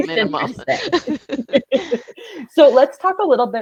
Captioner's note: laughing cheerfully